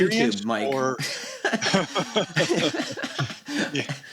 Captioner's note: laughter